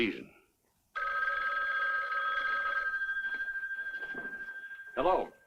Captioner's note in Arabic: رنين الهاتف